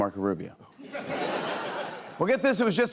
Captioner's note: laughter